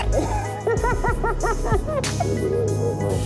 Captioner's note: laughs